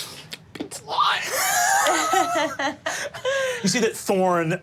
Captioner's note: laughing; group laughing